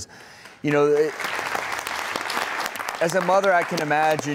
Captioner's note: audience applauds